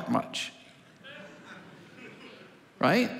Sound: congregation laughing

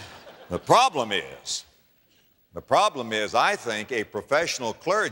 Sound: laughter

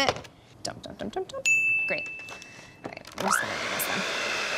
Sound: bell

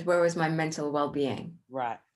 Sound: none

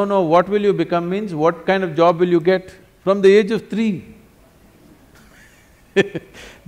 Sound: laughs

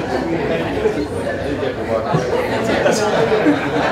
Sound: laughter

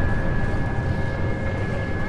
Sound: explosion rumbling

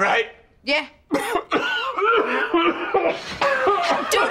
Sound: coughing

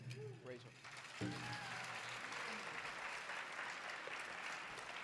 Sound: audience applauding

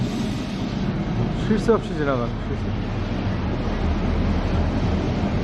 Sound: tram keeps passing

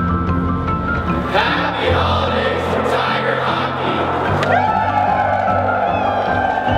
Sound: cheering

